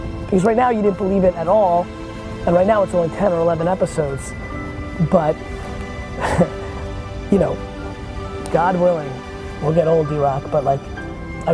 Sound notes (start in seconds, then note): 5.4 chuckling